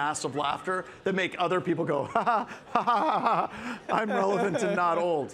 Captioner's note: laughs